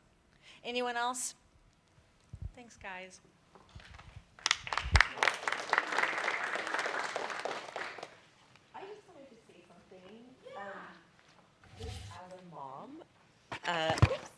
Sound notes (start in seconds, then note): 4.4 applause